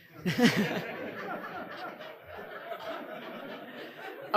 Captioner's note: audience laughing